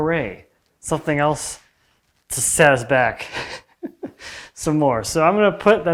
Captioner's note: chuckles